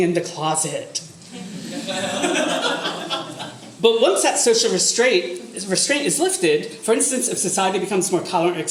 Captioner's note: audience laughter